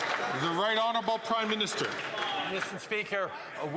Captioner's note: some Applause